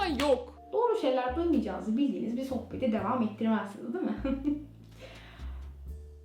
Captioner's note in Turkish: güler